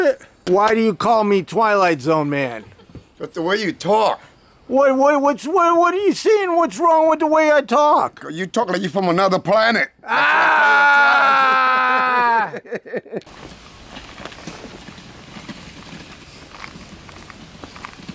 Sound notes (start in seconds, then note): 10.4 yelling; 11.8 laughing